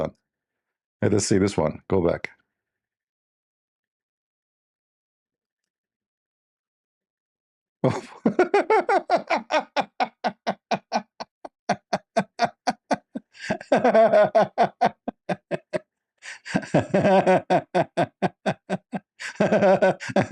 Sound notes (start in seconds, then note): 7.8 Ketawa